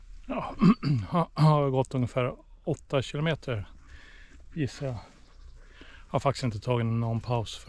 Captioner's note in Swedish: harklar sig